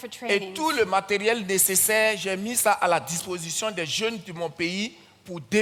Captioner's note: continues in French